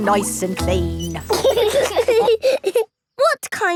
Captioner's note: laughing